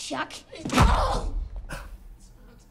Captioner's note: child grunts